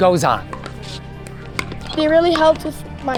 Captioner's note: court noises